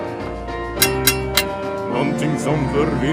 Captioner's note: sounds of fencing